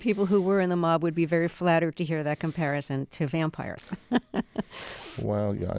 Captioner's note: laughter